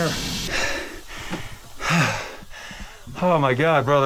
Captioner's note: breathing heavy